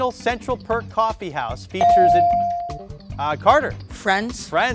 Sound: bell dings

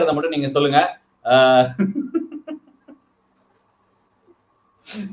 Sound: laughs

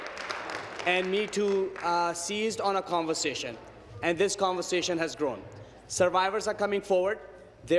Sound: applause

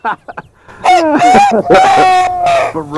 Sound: rooster sounds

